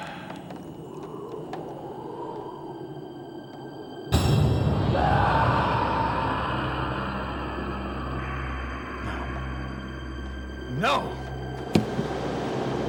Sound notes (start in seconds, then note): 0.3 wind howling; 4.7 screaming